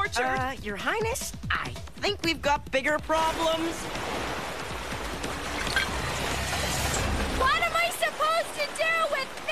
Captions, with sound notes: - UH, YOUR HIGHNESS, I THINK WE'VE GOT BIGGER PROBLEMS. [water rushing] - WHAT AM I SUPPOSED TO DO WITH THIS.